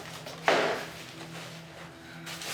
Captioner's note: kitchen sounds